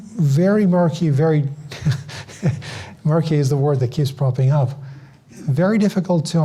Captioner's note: laughs